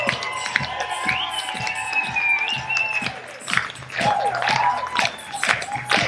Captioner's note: audience clapping to beat